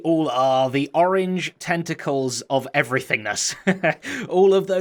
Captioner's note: chuckles